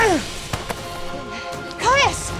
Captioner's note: grunt